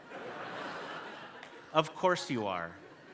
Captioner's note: audience laughing